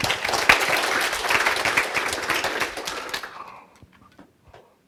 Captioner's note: audience applauds